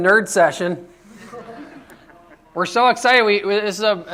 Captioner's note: laughter